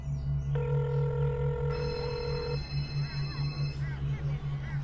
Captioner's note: phone ringing